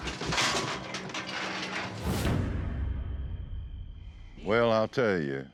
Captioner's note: chute clanking